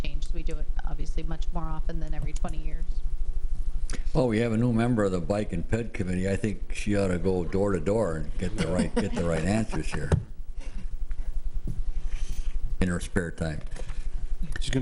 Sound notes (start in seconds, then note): 8.4 laughs